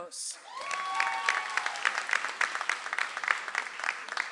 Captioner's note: audience applauds